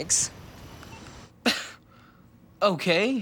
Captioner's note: laughs